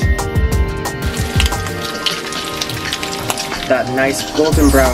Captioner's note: bacon sizzling